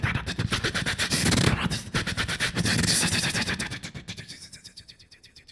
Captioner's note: beatboxing